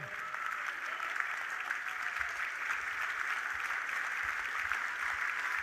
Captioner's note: audience applauding